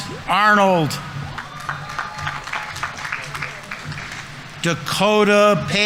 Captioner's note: audience members cheering; audience applauding